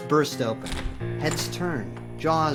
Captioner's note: door opens